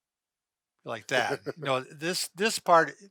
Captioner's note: laughs